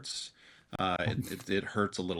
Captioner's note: participant laughs